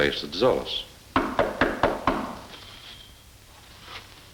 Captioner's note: someone knocks